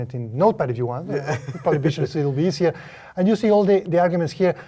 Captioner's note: laugh